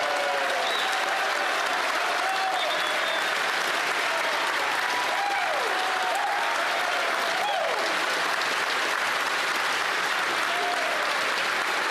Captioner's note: applause; cheering